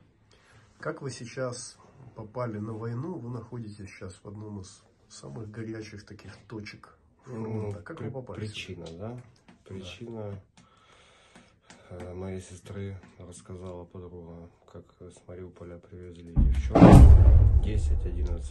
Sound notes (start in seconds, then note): 16.4 explosion